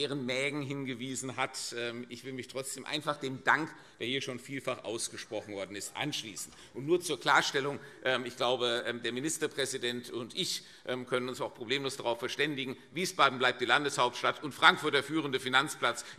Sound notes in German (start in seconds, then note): none